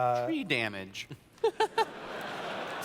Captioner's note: laughter